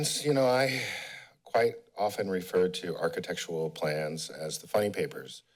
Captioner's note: sigh